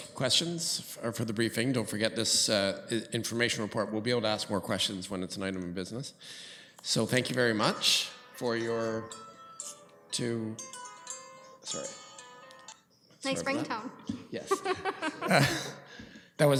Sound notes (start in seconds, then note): 10.4 phone ringing; 14.4 laughing